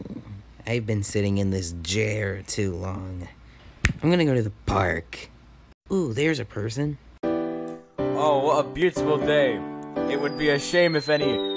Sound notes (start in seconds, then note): 3.8 snap